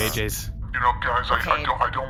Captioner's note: distorted voice